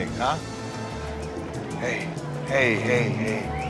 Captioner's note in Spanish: Sollozos